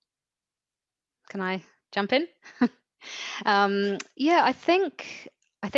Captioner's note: chuckles softly